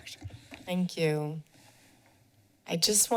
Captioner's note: pause